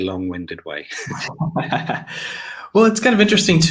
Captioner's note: laughs